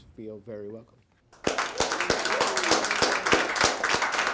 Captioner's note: applause